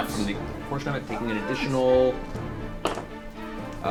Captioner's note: Jimmy Stewart voice